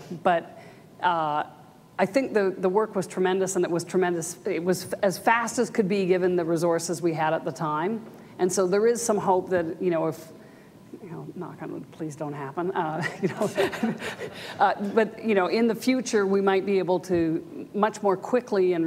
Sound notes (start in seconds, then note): 13.3 audience laughs